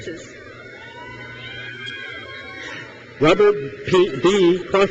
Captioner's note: crowd cheers